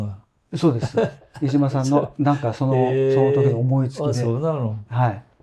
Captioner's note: laughs